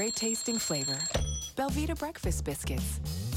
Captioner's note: alarm ringing; alarm stops